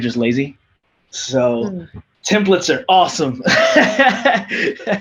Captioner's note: laughs